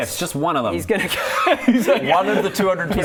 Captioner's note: intimidated-by-Djeoph laughter